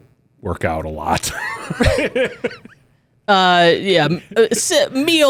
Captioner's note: laughs